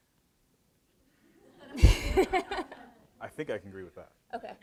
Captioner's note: audience laughs